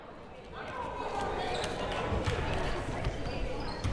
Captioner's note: crowd murmuring